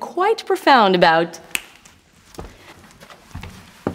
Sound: finger snap

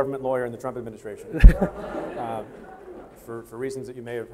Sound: audience laughing

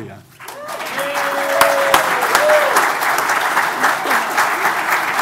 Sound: audience applauding

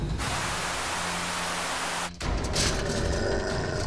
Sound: static buzzes; dog growls

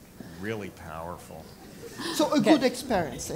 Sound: laugh

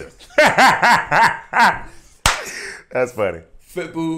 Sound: laughing

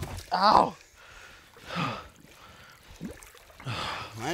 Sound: grunting

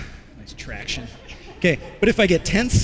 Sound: laughter

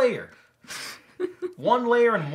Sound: giggles

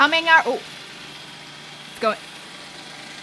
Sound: machine roaring

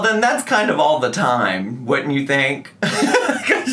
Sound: laughs

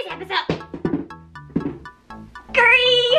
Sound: mannequin falling

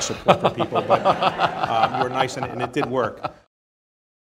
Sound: laughter

